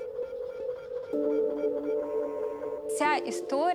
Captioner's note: equipment buzzing